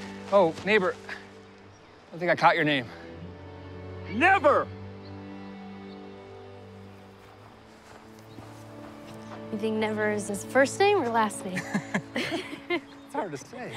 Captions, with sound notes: Oh, neighbor... I don't think I caught your name. Never! -Do you think "Never" is his first name, or last name? -[both laugh] It's hard to say.